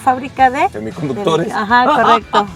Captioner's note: laughter